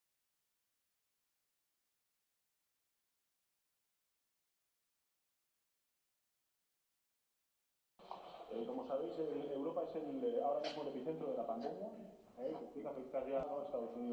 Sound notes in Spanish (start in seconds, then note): 9.6 voz en off del presidente Sánchez